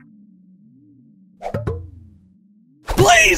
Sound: milk jug thuds

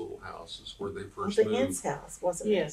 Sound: laughter

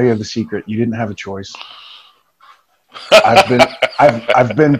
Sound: laughing

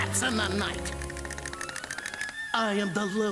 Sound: chattering

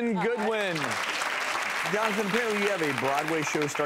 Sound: audience applauds

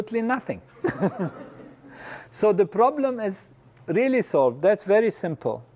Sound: laugh

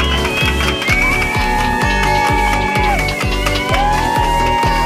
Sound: cheering

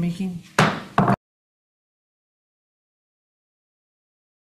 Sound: gavel bangs

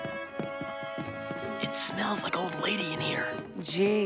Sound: whispering

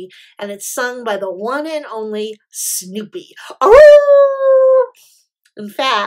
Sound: howl

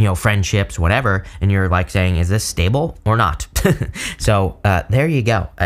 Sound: chuckles

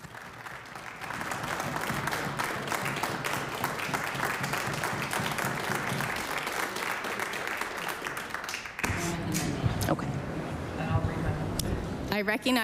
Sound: applause

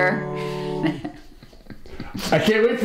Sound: chuckling

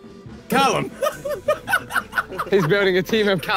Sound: Ethan laughing

